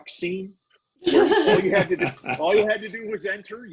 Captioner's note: laughing